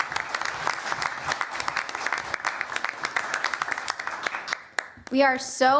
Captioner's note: applause